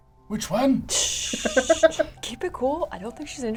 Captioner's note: shushes